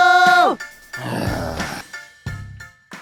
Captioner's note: sigh